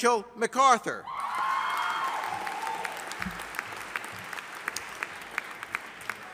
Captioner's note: audience applauding